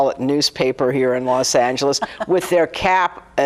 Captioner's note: laughing